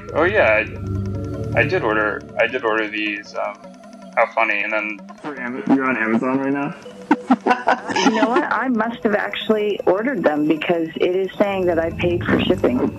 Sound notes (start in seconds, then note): 6.8 laughing